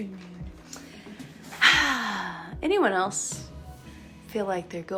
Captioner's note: sighs